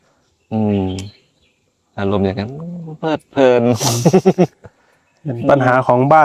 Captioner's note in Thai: เสียงหัวเราะ